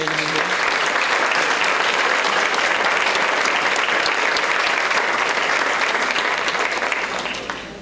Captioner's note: applause